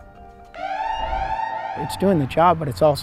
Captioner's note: soft music; sirens wailing